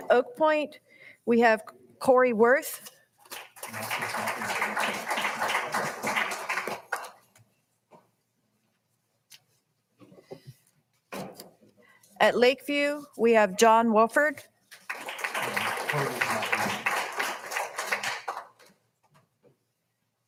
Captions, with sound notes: At Oak Point, we have Corey Worth. (all applauding) (people chattering) At Lakeview, we have John Wolford. (all applauding) (people chattering)